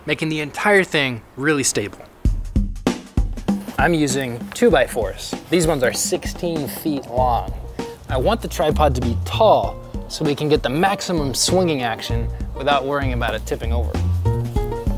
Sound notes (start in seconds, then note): none